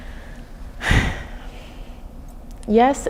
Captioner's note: sighing